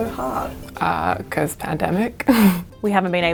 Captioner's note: laughs